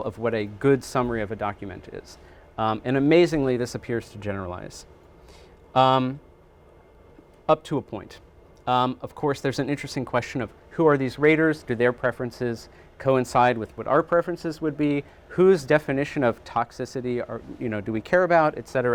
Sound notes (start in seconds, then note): none